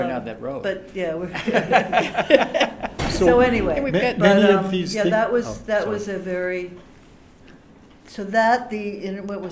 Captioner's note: laughter